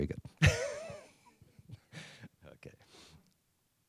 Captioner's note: laughs